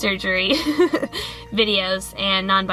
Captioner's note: more laughter